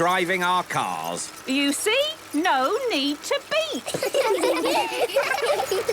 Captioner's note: laughter